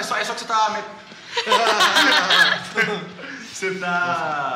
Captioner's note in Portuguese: Risadas